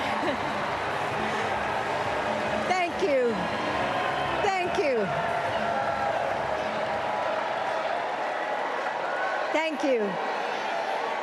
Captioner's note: applause